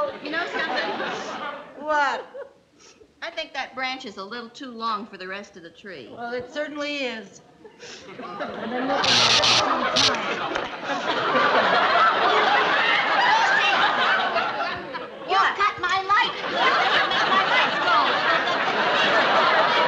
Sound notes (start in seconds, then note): 9.0 electricity buzzing